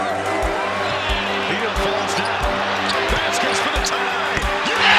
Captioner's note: applause